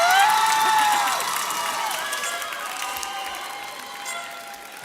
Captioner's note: audience cheers